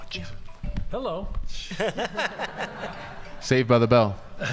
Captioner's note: audience laughing